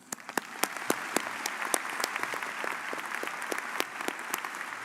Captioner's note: audience applauding